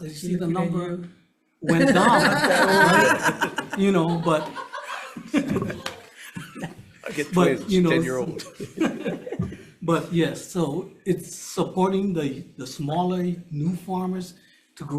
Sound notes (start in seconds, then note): 2.6 members laughing